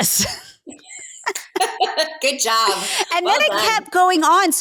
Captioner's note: both laughing